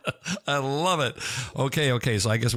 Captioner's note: laugh